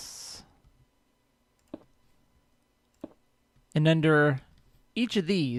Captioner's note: none